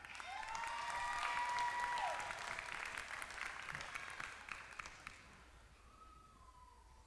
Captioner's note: applause